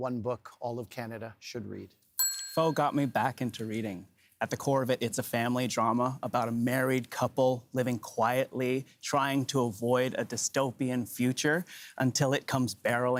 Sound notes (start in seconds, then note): 3.8 bell rings